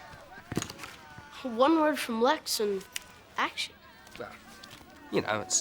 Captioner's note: fingers snap